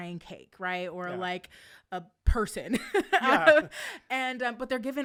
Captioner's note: laughs